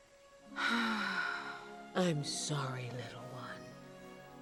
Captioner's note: sigh